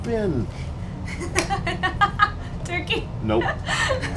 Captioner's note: laugh